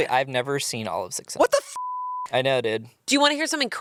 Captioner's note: beep